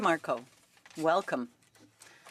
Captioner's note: speaking in French